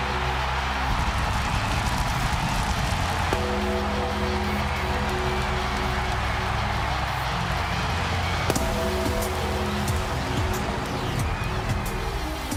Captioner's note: crowd cheering